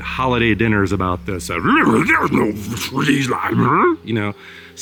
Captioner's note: immitates nonsensical arguing sound